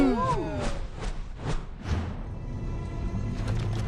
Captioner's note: panels swooshing; tense music